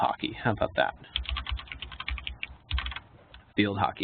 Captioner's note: keyboard clicking